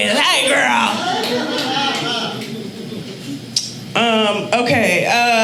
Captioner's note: audience laughing